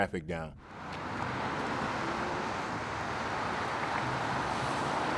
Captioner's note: cars moving on the highway